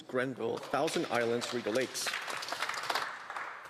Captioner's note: speaking French